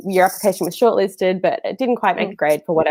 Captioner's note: none